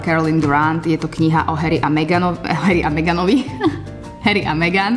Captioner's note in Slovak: smiech